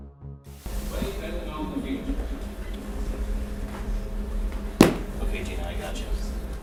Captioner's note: man speaking faintly over loud speaker